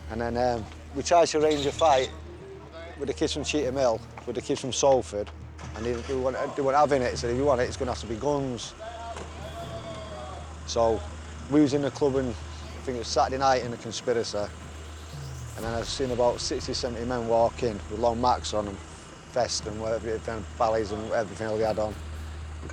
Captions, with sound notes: And then we tried to arrange a fight with the kids from Cheetham Hill with the kids from Salford. And they weren't having it. Said, "If you want it, it's gonna have to be guns." So we was in the club, I think it was Saturday night in the Conspiracy. And then I seen about 60, 70 men walk in with long macs on them, vests, and whatever (speaks faintly) and everything they had on.